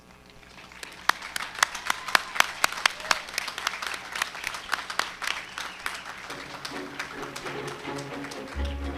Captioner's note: applause; background music during the conferring of degrees